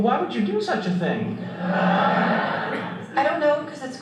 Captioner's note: audience laughter